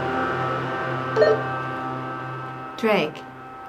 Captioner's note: walkie-talkie dings